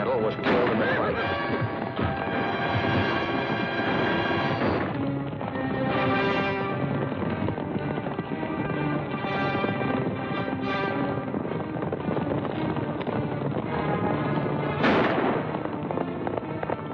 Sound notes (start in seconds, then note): 14.6 firing